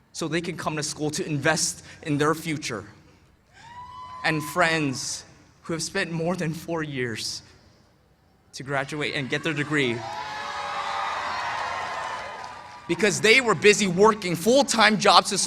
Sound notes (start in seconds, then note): 9.3 cheers and applause